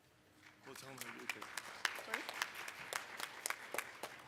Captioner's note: applause